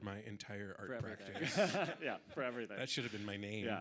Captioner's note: audience laughing